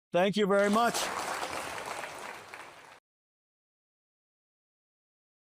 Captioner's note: applause